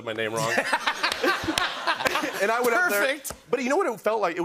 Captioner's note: laughter